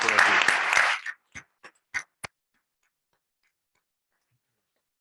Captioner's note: members clapping